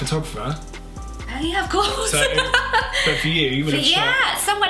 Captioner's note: laughs